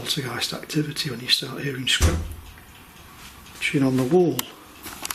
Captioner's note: loud banging